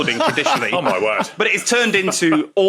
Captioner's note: laughs